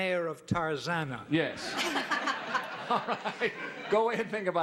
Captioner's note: audience laughing